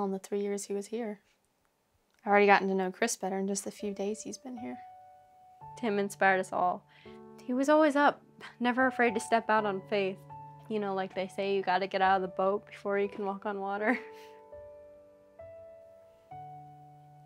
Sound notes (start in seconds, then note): 13.9 chuckles; 15.2 gentle music